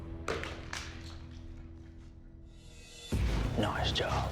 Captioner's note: thud